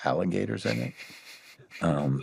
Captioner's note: laughs